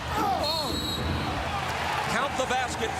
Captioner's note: whistle blows